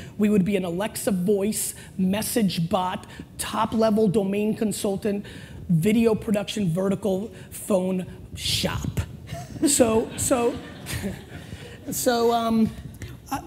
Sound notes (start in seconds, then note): 9.3 laughter; 10.9 chuckles